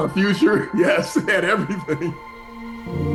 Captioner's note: laughing